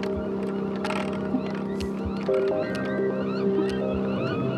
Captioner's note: gulls cawing